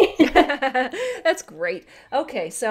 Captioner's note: laughter